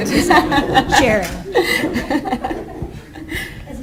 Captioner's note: laughter